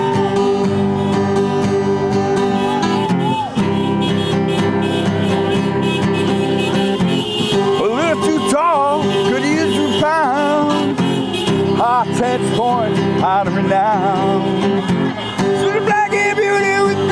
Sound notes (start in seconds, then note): 11.6 cheers